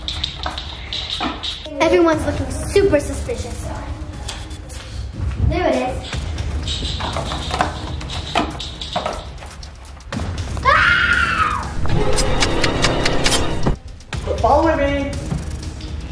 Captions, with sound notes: - Everyone's looking super suspicious. There it is. (screams) (slicing sounds) - Quit following me.